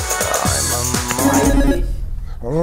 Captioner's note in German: Buzzer